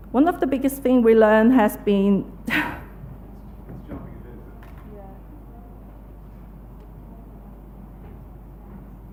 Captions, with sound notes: One of the biggest things we learned, has been (laughs)